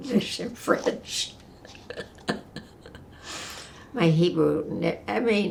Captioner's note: laughing